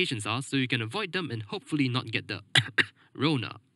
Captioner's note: cough; cough cough